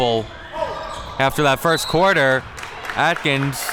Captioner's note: whistle blows